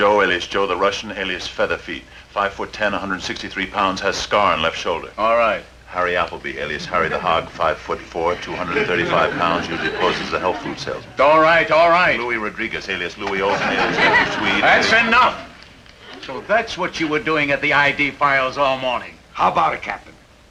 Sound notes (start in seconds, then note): 10.2 audience tittering